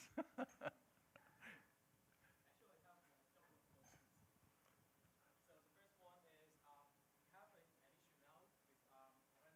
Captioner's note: laughter